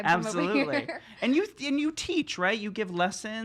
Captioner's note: laughs